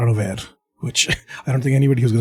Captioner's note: laughs